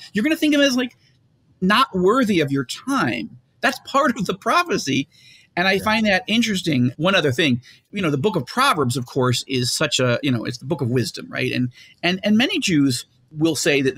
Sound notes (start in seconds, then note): 5.8 laughs